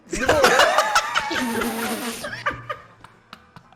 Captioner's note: laughs